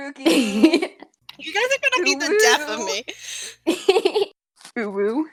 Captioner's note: giggle